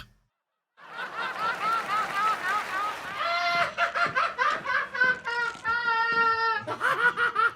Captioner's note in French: rires